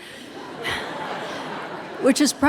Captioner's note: audience laughing